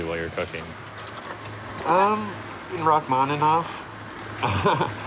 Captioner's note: laughs